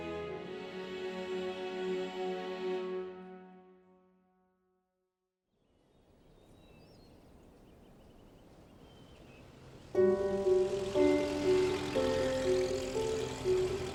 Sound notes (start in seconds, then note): 5.9 birds twittering; 9.9 light melodic orchestral music